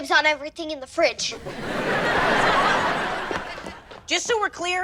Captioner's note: audience laughter